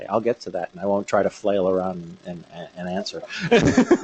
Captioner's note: laughter